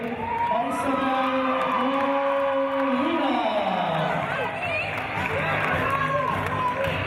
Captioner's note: cheers